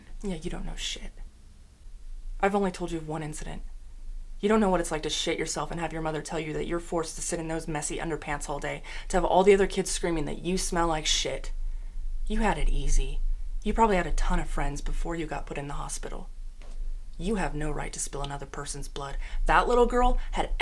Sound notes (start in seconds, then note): none